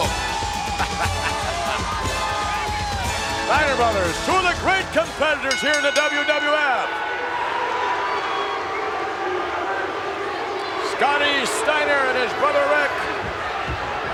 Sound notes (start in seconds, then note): 0.2 audience cheers; 8.5 bell rings